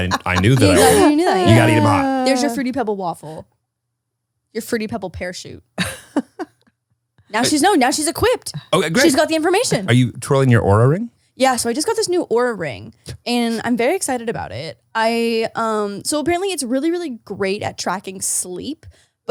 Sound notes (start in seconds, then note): 5.7 laughs